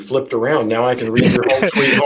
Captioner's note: laughing